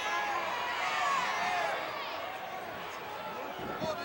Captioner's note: audience cheering